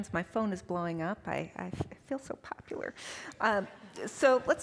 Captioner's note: all chuckling